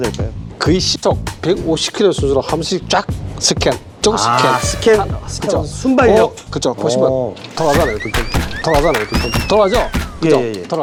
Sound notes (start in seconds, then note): 4.3 Speedy scanning